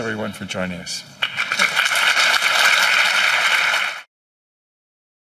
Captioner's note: applause